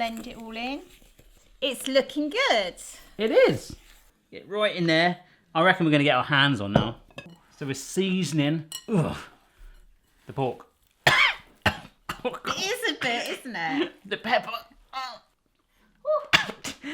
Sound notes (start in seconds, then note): 11.0 coughing; 14.4 choking